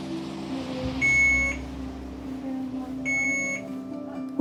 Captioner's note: machine beeping